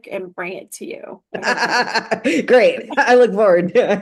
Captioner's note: laughter